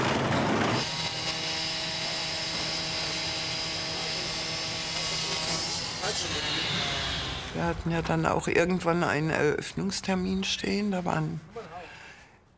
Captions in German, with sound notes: (Lautes Maschinendröhnen) Wir hatten ja dann auch irgendwann einen Eröffnungstermin stehen.